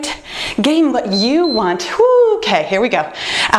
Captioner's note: timer beeps